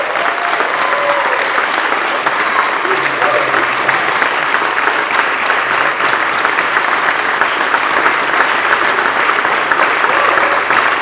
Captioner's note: applause